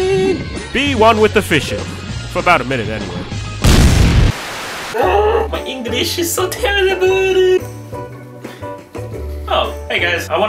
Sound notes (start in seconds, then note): 3.6 explosion noise